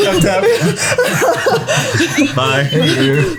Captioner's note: laughs